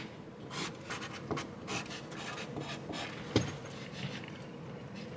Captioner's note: marker scrapes wall